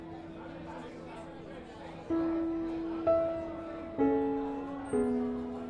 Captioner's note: crowd chatters